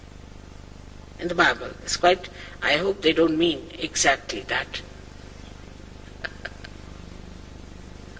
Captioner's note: shri mataji laughs